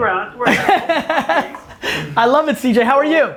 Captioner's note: Gary laughs